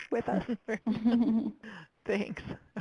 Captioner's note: group laughing